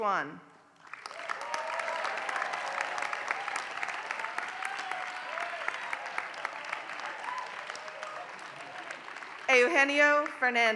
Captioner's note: applause